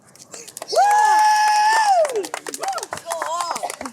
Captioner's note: cheering